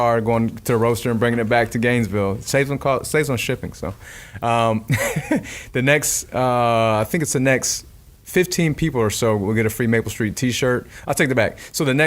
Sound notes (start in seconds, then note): 4.9 laughing